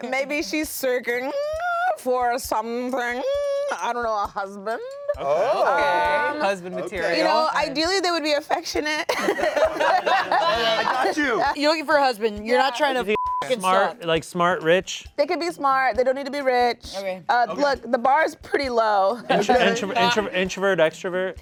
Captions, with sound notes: - Maybe she's searching for something. I don't know. A husband. - Oh. - Okay, husband material. - You know, ideally they would be affectionate. (everyone laughs) - I got you. - You're looking for a husband? You're not trying to (beep) and suck. - Like smart, rich? - They can be smart. They don't need to be rich. - Okay. - Look, the bar's pretty low. - Introvert, extrovert?